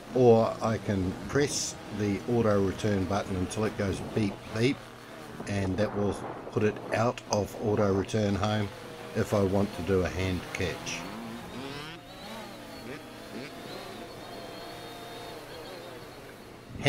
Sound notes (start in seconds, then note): 11.4 motorbike engine revving; 14.6 drone motors running